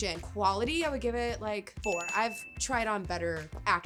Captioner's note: bell ringing